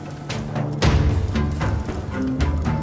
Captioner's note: armour clattering